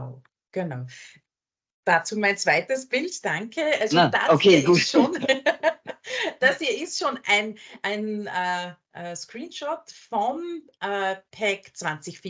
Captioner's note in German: lachen